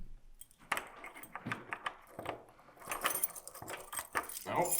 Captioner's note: key clanging